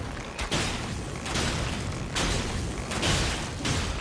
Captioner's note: arrows smashing